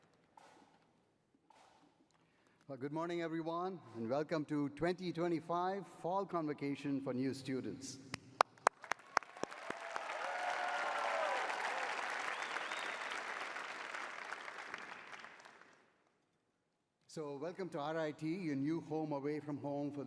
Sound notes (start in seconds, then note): 9.0 cheering